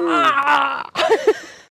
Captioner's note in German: Lachen